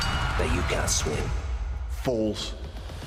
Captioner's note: bell ringing